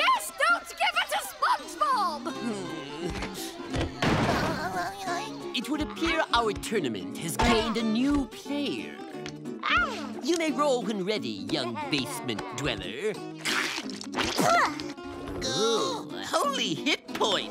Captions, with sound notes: Don't give her to SpongeBob! Hmm. [giggling] It would appear our tournament has gained a new player. [cooing] You may roll when ready, young basement dweller. Oh. Holy hit points!